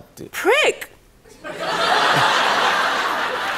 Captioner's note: laughter